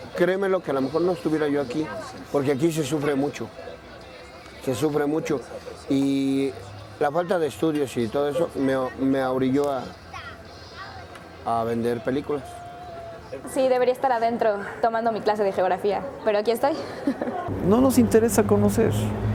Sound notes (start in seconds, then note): 16.6 laughs